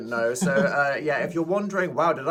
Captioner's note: chuckling